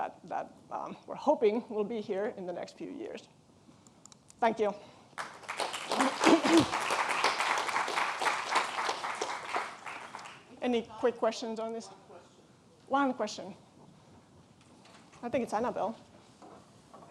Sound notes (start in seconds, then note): 5.1 audience applauding; 11.3 woman speaking faintly